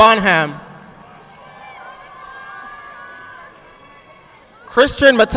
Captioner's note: audience clapping